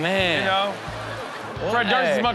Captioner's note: audience laughs